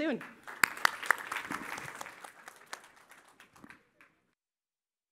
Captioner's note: applause